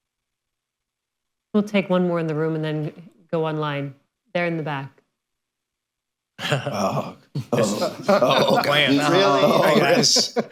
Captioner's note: laughter